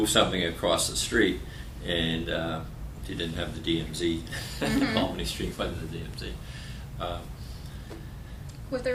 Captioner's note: laughter